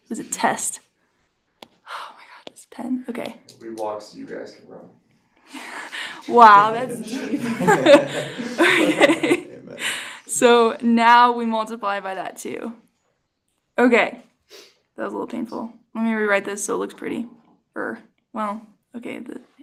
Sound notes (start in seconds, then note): 8.6 laughter